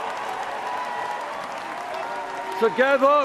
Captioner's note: cheers and Applause